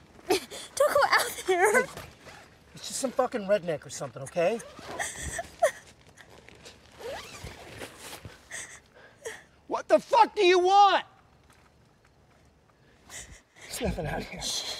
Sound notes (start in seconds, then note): 1.5 tent unzips; 4.9 Stephanie sobs; 6.7 tent unzips fully